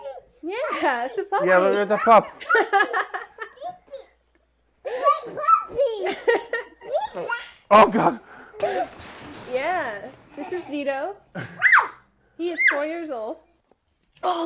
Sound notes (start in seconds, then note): 2.1 laughing; 8.6 glass shattering